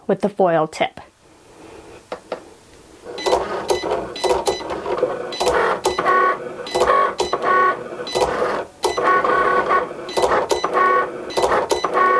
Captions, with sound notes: with the foil tip. (Cricut beeps) (Cricut whirs)